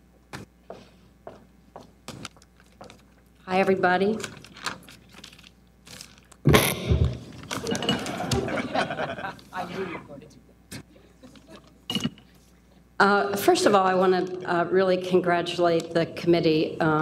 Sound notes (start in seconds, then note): 6.4 microphone feedback scratching; 7.5 audience laughing